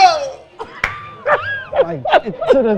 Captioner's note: laughing